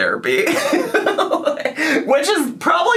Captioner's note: laughs